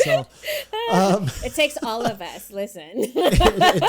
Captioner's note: laughs; both laugh